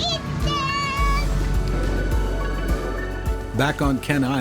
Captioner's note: hiss of gas